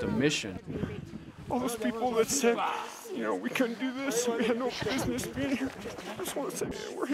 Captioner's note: crying